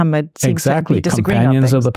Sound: faintly speaking

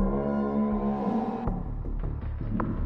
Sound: none

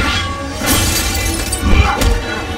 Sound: glass breaking; fighting noises

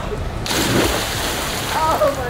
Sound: splashes

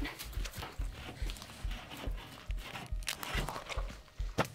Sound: damp chewing sounds

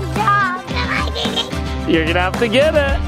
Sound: babbling

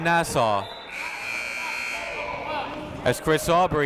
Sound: buzzer goes off

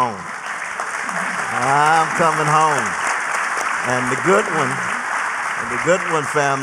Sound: applause

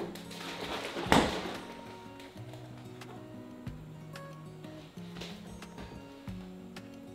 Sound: milk sloshing; refrigerator door shutting

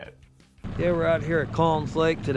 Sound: boat engine running

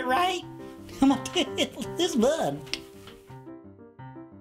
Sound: laughs

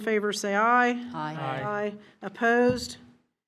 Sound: in Unison

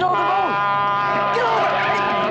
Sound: truck horn blaring

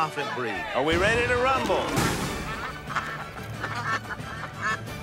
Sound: ducks quacking

